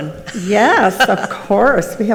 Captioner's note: laughs